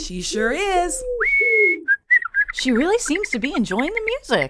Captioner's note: whistling and cooing sounds continue